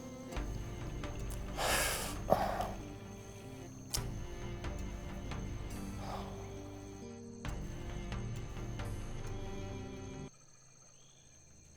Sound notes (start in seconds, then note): 1.5 sigh